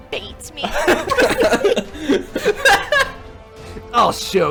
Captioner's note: laughing